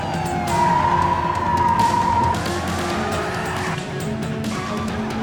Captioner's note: tires screeching